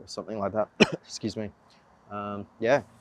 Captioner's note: speaker coughs